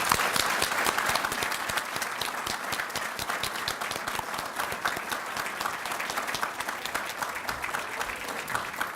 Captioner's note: people clapping